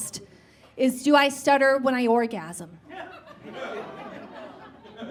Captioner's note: scattered chuckles